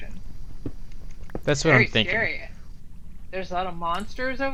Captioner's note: stompy